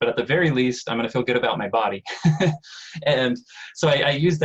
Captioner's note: chuckles